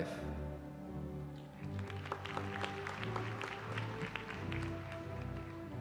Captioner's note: applause